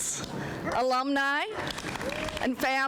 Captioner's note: applause